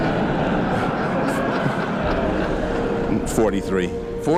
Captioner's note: audience laughs